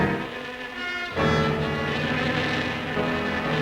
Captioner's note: buzzing